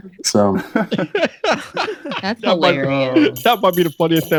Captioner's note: laughter